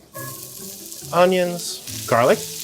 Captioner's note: pan sizzling